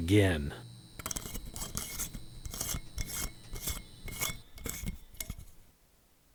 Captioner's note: lightbulb unscrewing